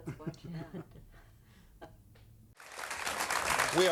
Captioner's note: chuckling; audience applauding